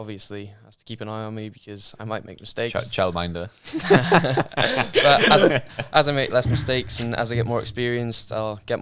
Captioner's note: laughing